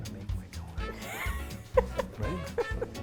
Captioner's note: laughing